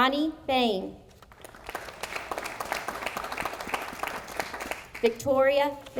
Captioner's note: audience applauding